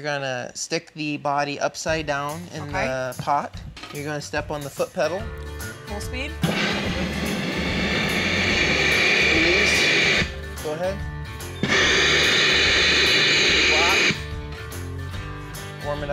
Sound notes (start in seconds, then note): 6.4 machine running; 11.6 machine running